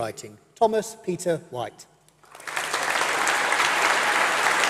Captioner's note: applause